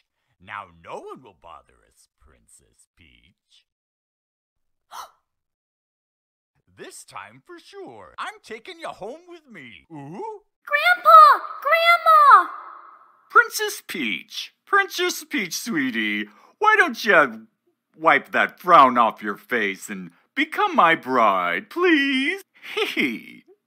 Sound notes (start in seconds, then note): 4.8 gasp